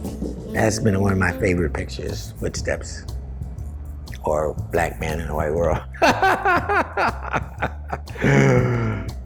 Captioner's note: laughs